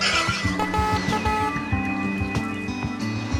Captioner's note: boar squealing